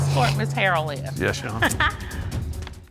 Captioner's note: chuckles